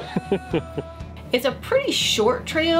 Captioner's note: laughs